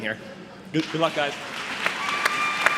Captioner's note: applause